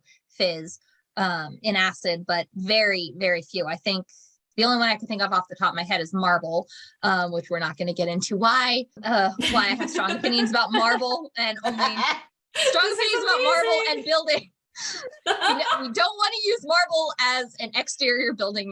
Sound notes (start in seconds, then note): 9.4 cackling and crosstalk